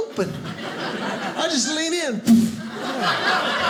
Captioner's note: slam; audience laughing